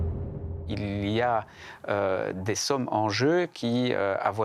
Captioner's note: French spoken audio